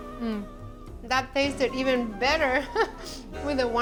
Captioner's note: laughs